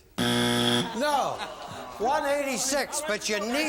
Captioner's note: buzzer